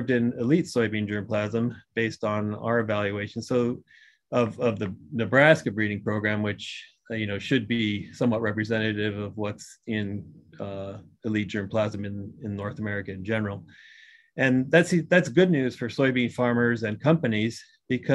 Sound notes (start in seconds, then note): none